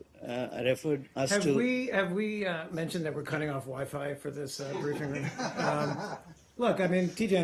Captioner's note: laughter